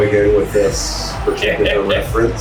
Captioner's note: crowd Noises